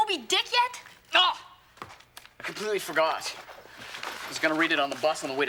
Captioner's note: exclaims